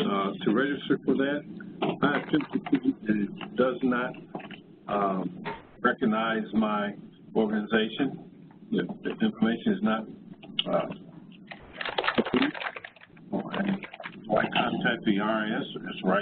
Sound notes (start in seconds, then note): 12.1 distorted electronic sounds